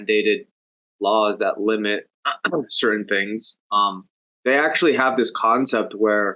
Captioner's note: clears throat